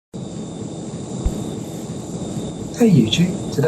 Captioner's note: plane Engine Noise